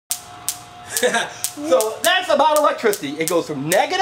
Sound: laughs

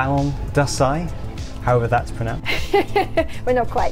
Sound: laughing

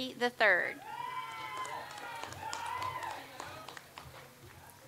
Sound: audience applauds

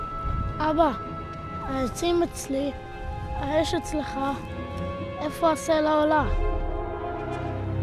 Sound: speaking in Hebrew

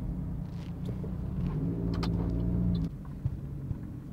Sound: car indicator

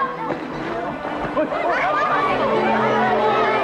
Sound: clamoring

